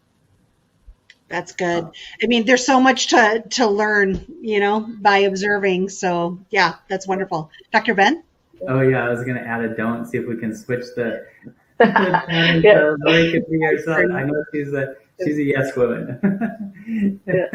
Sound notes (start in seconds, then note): 11.8 all laugh; 15.2 laughs